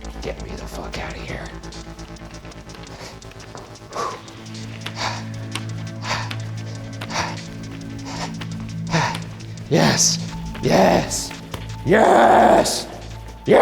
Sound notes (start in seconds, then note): 3.1 heavy breathing; 5.7 ominous music